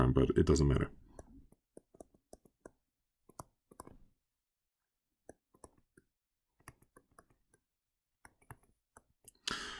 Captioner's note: writing